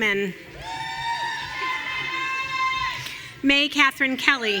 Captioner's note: audience cheering